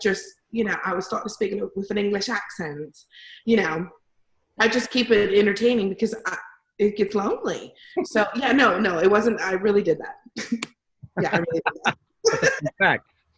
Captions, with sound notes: drive-through, I would just -- you know, [English accent] I would start speaking with an English accent. [ Normal voice ] You know? I'd just keep it entertaining because it gets lonely. So, yeah, no, no, it wasn't -- I really did that. [ Laughs ] Yeah, I really did